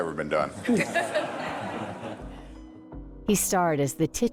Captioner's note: group laughs